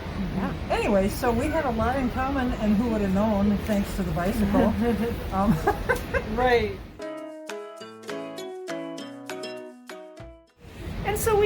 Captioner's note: laughs